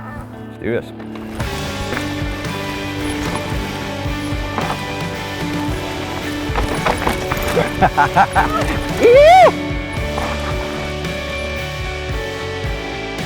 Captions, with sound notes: Let's do this! (upbeat rock music) (laughing) (cheering) Whoo!